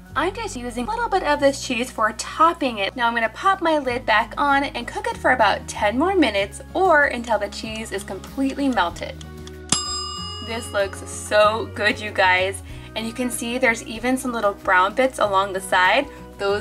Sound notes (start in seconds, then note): 9.7 bell dinging